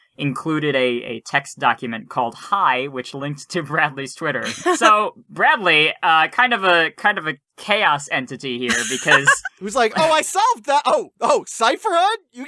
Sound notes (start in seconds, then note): 4.4 chuckles; 8.6 laughs